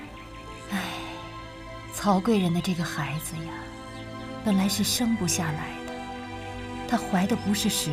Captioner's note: sigh